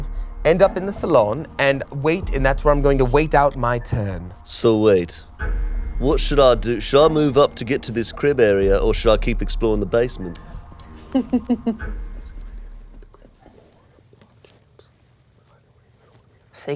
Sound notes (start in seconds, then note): 12.0 whispering